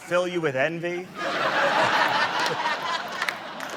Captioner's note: laughter